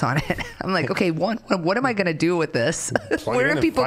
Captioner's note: chuckling